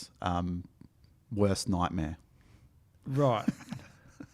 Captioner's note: giggles